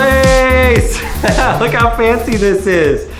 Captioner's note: dance music; laughs